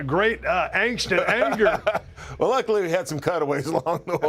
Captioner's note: laugh; laugh